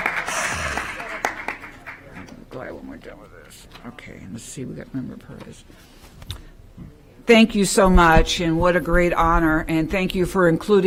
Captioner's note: applause